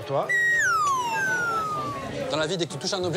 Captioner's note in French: bruitage